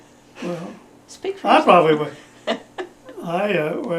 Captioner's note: laughs